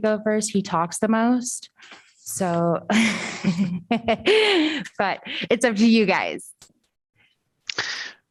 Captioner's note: laughter